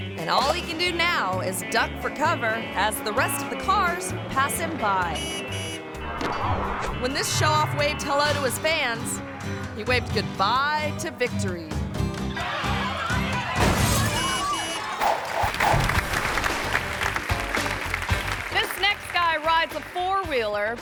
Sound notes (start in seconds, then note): 12.4 tires squealing; 13.5 car crashes; 13.9 car honking; 15.4 audience applauding